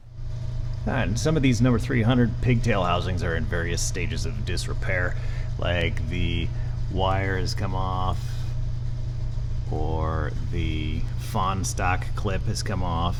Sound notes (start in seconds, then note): none